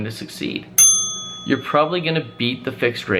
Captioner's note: bell dinging